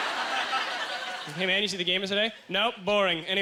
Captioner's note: audience laughter